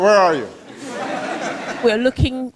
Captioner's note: laughter